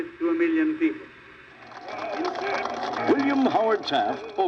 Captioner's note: crowd applauds